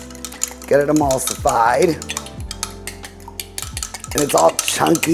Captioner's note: whisk clattering